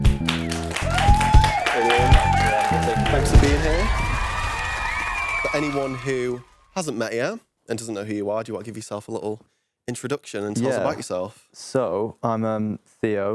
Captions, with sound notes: (audience applauding) Hello, thanks for being here. (audience cheering) But anyone who hasn't met yet, and doesn't know who you are, do you want to give yourself a little introduction and tell us about yourself? - So, I'm Theo.